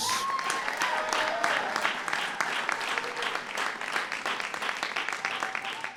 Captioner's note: applause